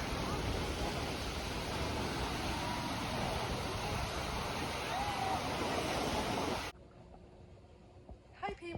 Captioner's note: ocean waves